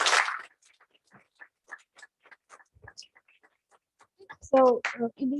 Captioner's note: applause